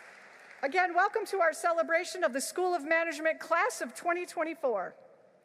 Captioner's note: applause